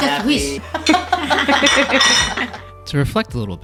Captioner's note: laughs